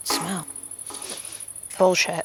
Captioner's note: sniffs